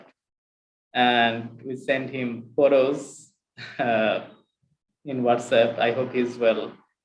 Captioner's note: chuckles